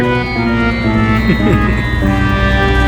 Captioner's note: laughing